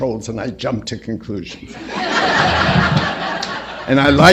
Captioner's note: laughter